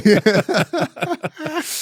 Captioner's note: laughter